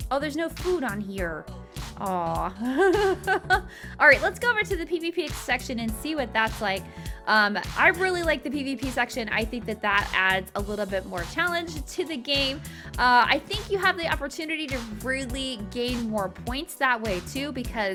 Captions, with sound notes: Oh, there's no food on here. Aww. (laughing) All right, let's go over to the PVP section and see what that's like. I really like the PVP section. I think that that adds a little bit more challenge to the game. I think you have the opportunity to really gain more points that way, too, because